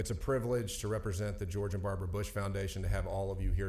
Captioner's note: none